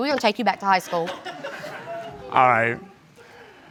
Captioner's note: audience members laughing